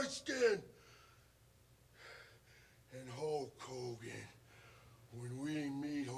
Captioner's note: breathes heavily